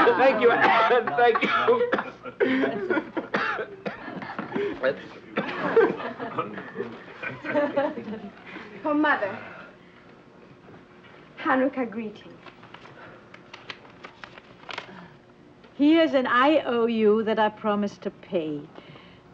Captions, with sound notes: - Thank you, Anne, thank you. (coughing) - That's- (group chuckling and chattering) - For Mother. Hanukkah greetings. - "Here's an IOU that I promise to pay.